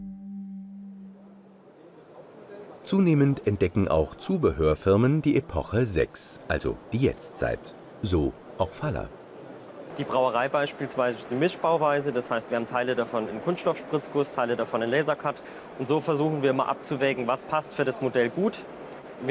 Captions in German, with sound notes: (Fernes Stimmengewirr) Zunehmend entdecken auch Zubehörfirmen die Epoche sechs, also die Jetztzeit. So auch Faller. Die Brauerei etwa ist eine Mischbauweise, das heißt, wir haben Teile davon in Kunststoffspritzguss, Teile davon in Lasercut. Und so versuchen wir immer, abzuwägen,